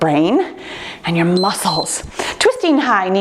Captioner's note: timer beeps